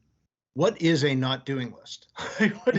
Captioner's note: laughing